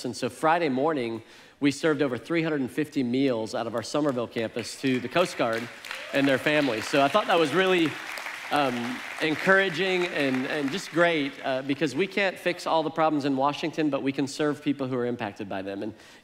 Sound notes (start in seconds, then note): 6.4 congregation applauds